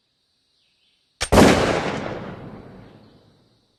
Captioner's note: gunshot